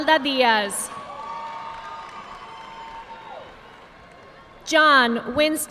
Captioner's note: audience clapping